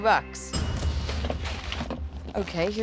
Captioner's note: cash register dings